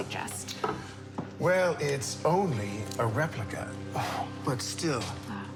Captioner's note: sighs